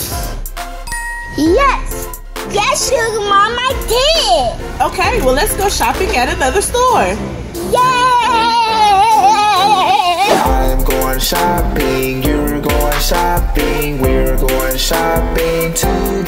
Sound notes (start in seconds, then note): 0.8 chiming; 8.6 playful children's music